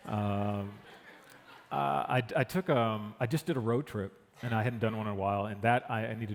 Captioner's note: laughter